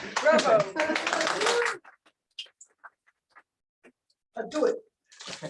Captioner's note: applause